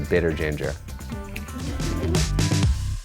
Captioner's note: audience group laughing; upbeat music